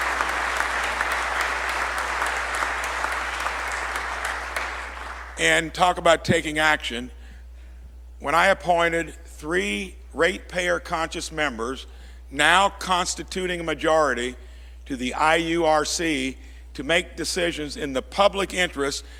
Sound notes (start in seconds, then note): 0.0 applause